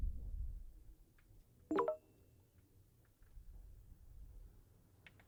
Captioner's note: notification dings